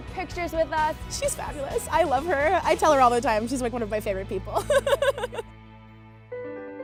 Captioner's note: laughs